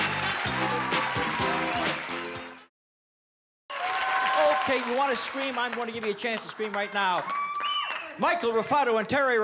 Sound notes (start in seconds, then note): 6.8 cheering